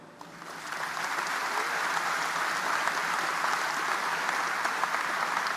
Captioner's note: audience applauding